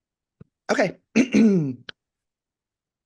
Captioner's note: clears throat